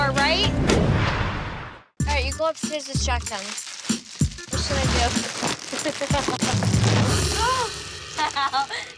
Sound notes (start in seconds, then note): 1.0 whooshing; 8.1 laughing